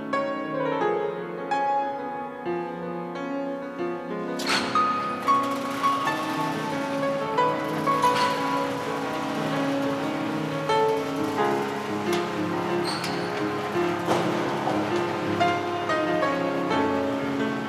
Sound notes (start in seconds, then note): 5.9 garage door creaks; 10.3 contemplative piano music continues